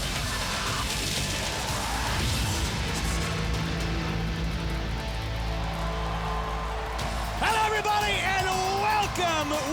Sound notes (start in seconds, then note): 5.9 crowd cheering